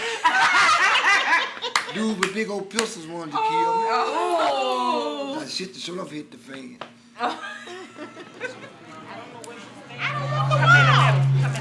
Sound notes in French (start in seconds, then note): 0.0 Fort rire; 4.2 femmes, à l'unisson; 7.2 Rires